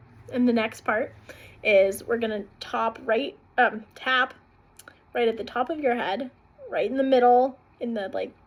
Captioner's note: breathing